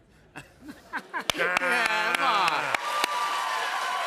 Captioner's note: laughter; cheers and applause